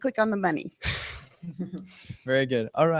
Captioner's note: laughter